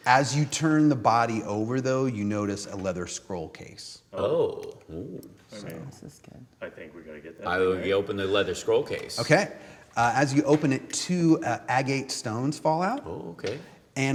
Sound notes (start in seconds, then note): none